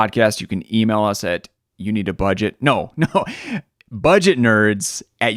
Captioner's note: laughing